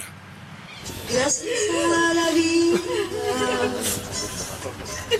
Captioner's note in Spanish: Llanto, lamentos